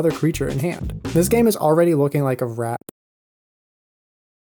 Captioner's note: plosive pops